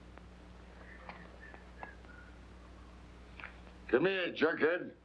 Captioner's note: whistles under breath